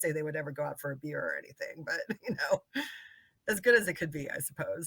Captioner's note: laughing